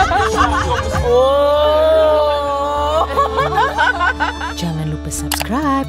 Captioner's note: laugh